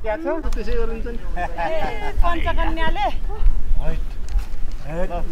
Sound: indistinct conversation

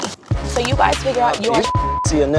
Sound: beep

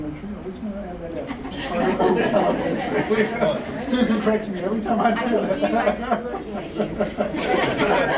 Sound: chuckles

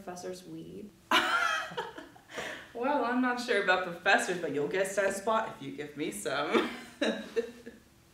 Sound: laughing

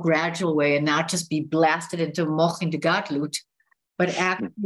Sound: hebrew

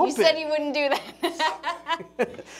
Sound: laughs

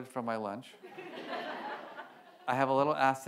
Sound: audience laughs

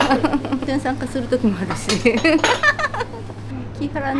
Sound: laugh

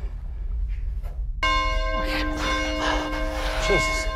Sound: bell rings

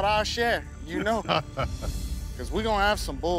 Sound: laughs

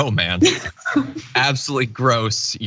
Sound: laugh

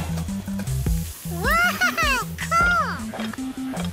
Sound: batter sizzling

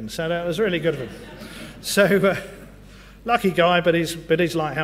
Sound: laugh

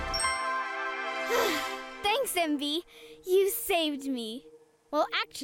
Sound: upbeat music; sighs

